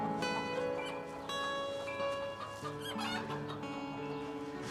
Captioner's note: melancholic music continues; chickens clucking